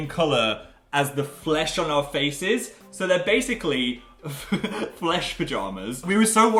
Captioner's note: laughs